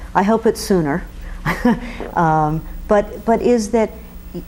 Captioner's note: chuckling